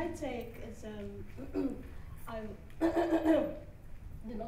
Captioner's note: she clears her throat